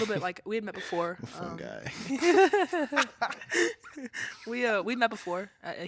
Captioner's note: all laughing